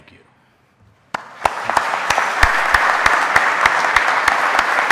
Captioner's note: audience applauding